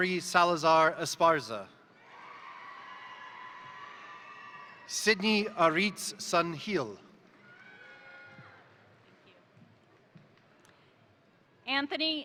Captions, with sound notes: Aubrey Salazar-Esparza, (crowd cheering) (crowd applauding) Sidney Aritz San Gil. (crowd cheering) (crowd applauding)